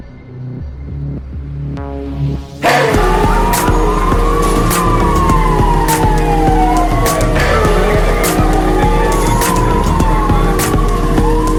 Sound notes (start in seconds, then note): 2.7 sirens blaring